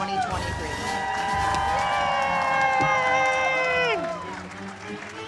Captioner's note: audience cheers